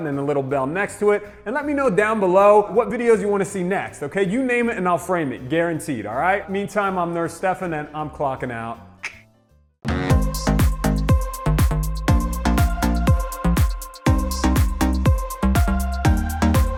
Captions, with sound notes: and the little bell next to it, and let me know down below what videos you want to see next, okay, you name it, and I'll frame it, guaranteed, all right? Meantime, I'm Nurse Stefan and I'm clockin' out. (clicks tongue) (soft jazz music)